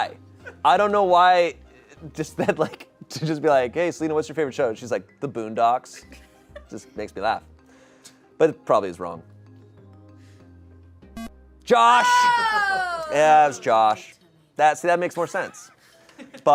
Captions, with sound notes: I don't know why. Just that like, to just be like, "Hey Selina, what's your favorite show?" And she's like, "The Boondocks," just makes me laugh. But it probably is wrong. (electronic beep) Josh! Yeah, that's Josh. See, that makes more sense.